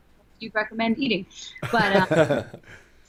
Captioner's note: laughter